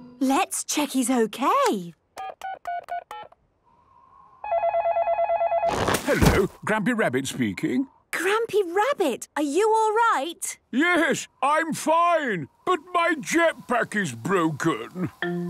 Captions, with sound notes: - Let's check he's okay. - (dial tones beeping) - (phone ringing) - Hello, Grampy Rabbit speaking. - Grampy Rabbit! Are you alright? - Yes! I'm fine. But my jetpack is broken.